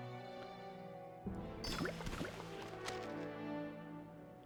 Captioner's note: water splashing